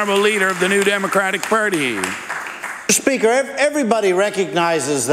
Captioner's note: applause